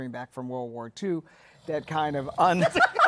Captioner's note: snoring; laughter